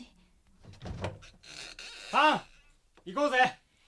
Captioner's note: SFX: door creaks open